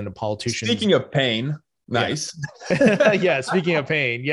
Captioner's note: both laugh